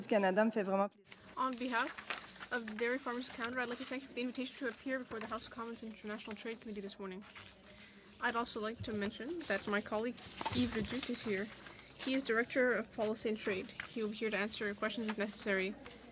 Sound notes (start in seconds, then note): 7.7 speaking french